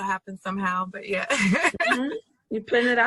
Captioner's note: laughs